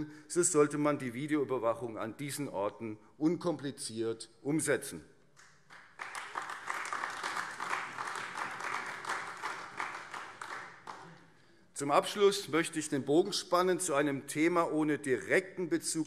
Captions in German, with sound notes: so sollte man die Videoüberwachung an diesen Orten unkompliziert umsetzen. [Beifall AfD] Zum Abschluss möchte ich den Bogen zu einem Thema spannen ohne direkten Bezug